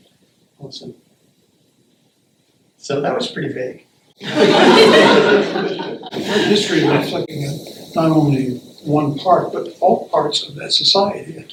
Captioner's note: laughter